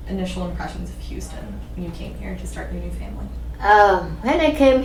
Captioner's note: none